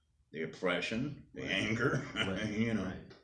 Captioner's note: laughing